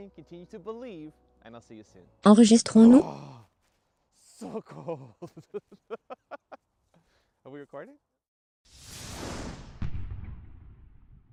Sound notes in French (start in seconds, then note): 4.4 rire; 8.7 whoosh